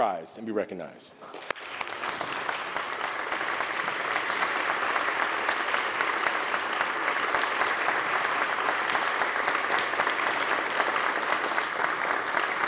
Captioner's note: applause